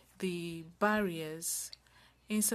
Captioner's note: speaking French